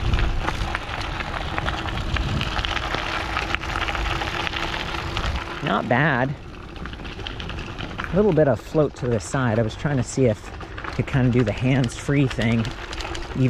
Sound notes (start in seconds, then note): 6.4 bike motor whirring